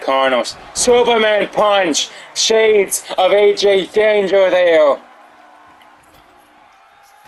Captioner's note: applause